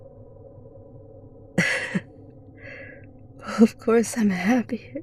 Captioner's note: tired laugh